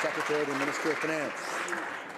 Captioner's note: some Applause